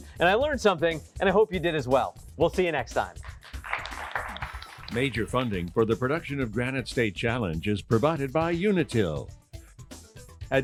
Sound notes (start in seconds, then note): 3.1 applause